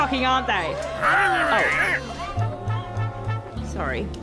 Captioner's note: grunts